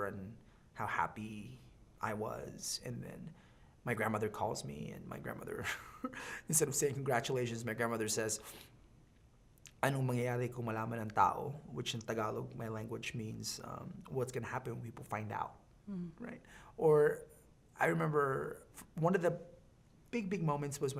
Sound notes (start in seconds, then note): 5.6 chuckling; 9.6 speaking Filipino